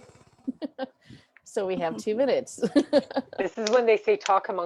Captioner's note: laughs